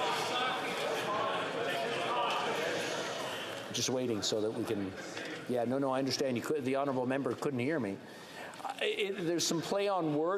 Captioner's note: yelling